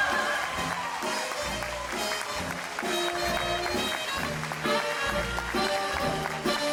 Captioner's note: audience applauding; bright jazz music